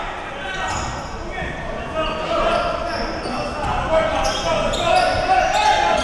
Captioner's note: audience chattering and yelling